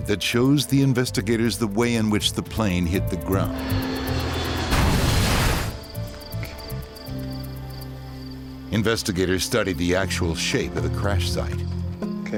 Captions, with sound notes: that shows the investigators the way in which the plane hit the ground. (airplane engine roaring) (airplane crashing) (sinister music) Investigators study the actual shape of the crash site.